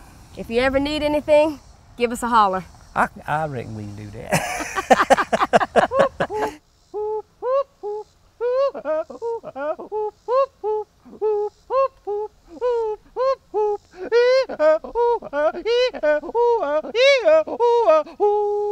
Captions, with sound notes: >> YEAH. >> IF YOU EVER NEED ANYTHING, GIVE US A HOLLER. >> I RECKON WE CAN DO THAT. [LAUGHTER] [HOLLERING]